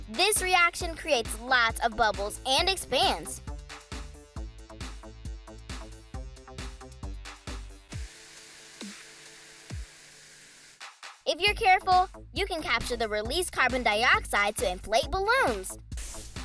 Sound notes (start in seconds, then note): 7.7 fizzing